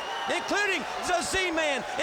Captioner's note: crowd cheering